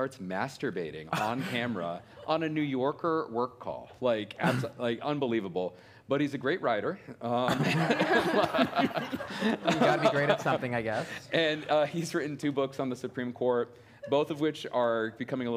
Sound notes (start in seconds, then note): 7.4 laughter